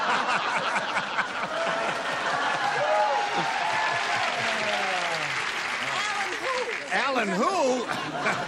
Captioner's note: laughter